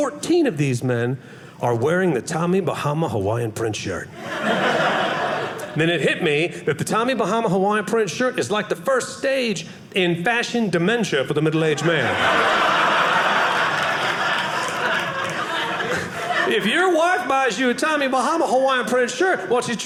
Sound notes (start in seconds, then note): 4.2 audience laughing; 11.7 audience laughing